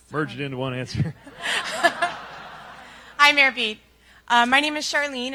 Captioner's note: applause and laughter